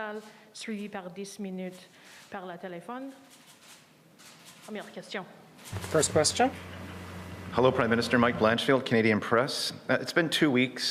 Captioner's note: speaking French